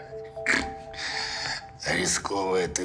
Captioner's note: chuckles